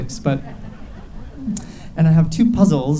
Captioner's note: audience laughs